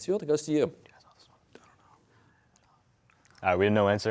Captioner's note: all whispering